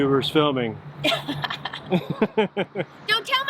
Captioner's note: chuckles